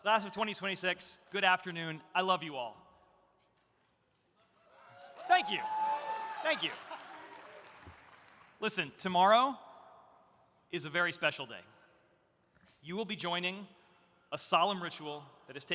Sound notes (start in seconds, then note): 4.7 audience cheering